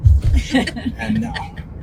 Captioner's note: laughing